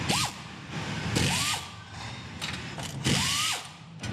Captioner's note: electric tools